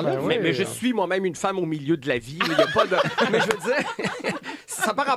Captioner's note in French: rires